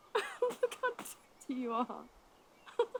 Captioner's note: laughs